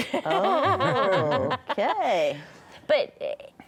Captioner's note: laughs